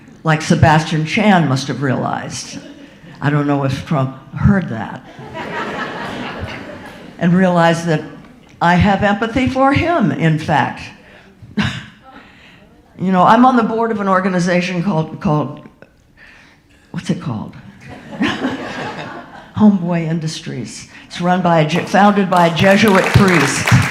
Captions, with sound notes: Like Sebastian Chan must have realized. I don't know if Trump heard that. (audience laughing) And realized that I have empathy for him, in fact. You know I'm on the board of an organization called, what's it called? (audience laughing) Homeboy Industries, it's founded by Jesuit Fries.